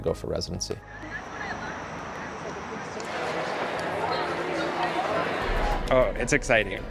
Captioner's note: people chattering